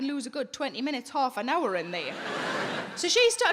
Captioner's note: audience laughing